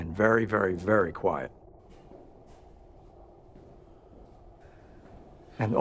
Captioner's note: quiet footsteps